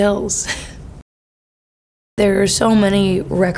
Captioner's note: Maya giggles